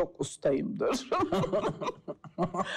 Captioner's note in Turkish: Gülüyor